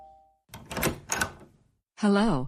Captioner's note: door opens